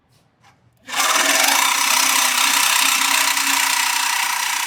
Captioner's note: cutter whirring